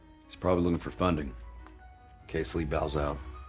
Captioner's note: none